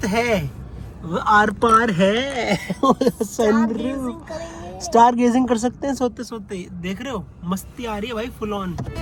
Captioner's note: laughter